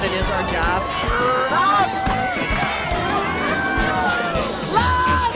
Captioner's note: people partying and cheering